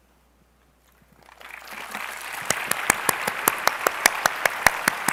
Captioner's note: applause